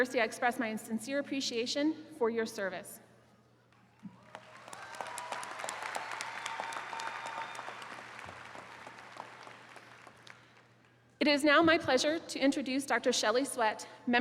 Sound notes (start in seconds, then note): 4.0 attendees cheering